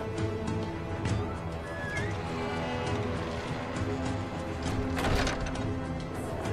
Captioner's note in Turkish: Kapı Gıcırtısı ve Kapanması Sesi